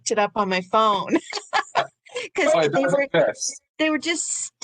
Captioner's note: laughs